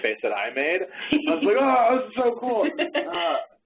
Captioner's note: laughing